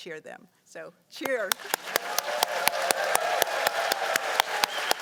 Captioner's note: cheers and applause